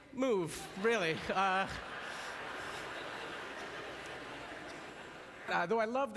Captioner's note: audience laughter